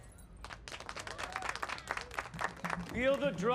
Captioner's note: applause